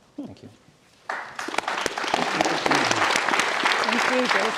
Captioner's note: audience applauding